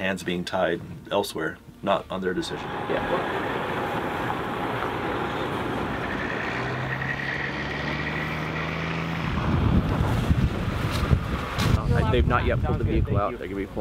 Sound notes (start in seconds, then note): 3.9 trucks approaching; 9.8 wind gushing